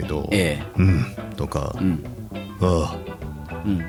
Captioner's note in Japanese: 咳払い